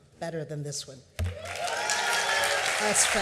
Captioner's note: cheers and applause